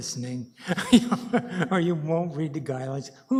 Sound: laughs

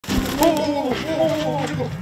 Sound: flaps

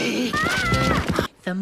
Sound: Arthur screams

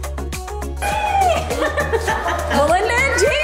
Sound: laughs happily

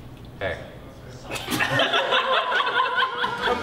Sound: laughter

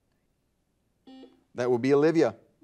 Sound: buzzer dings

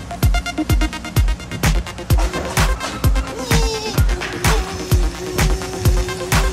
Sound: sounds of boy playing

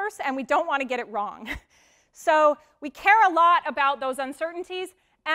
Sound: laugh

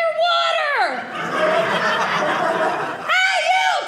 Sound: audience laughing

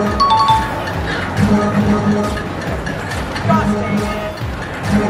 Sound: winning bell

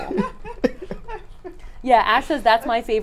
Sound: all laugh

